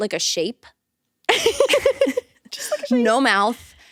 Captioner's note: both laughing